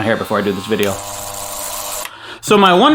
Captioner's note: razor buzzing